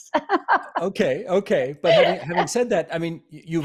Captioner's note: laughing